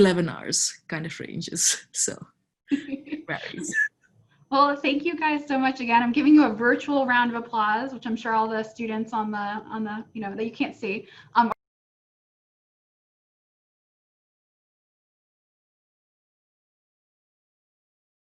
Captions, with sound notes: so (murmurs) (laughs) - Well thank you guys so much again, I'm giving you a virtual round of applause, which I'm sure all of the students that you can't see.